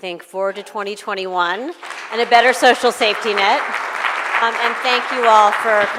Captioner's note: applause